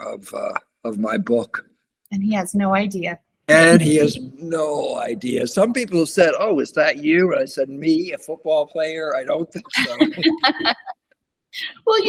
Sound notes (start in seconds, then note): 3.6 laughs; 9.5 laughter